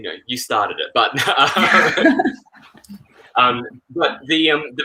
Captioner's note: chuckles